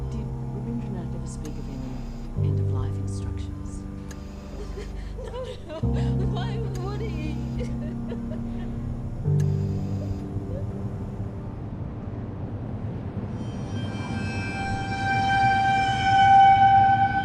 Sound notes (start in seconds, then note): 7.6 sobs; 13.4 ominous music